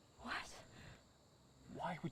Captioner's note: whisper